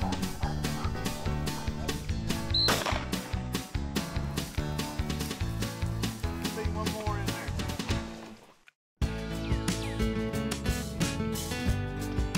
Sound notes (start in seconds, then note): 0.1 Belle panting; 2.5 whistle blows; 2.6 gun fires; 3.9 fast-paced country music continues; 9.4 gentle guitar music